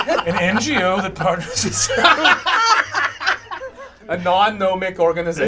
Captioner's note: all laugh